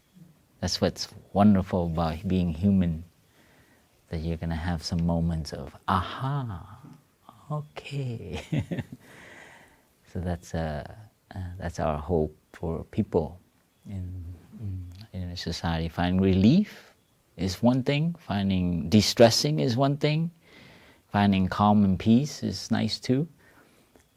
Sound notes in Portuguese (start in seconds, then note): 8.3 risos